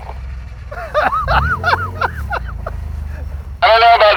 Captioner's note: laughing